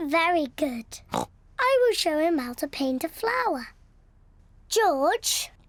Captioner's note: snorts